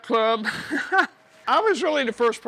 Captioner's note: laughs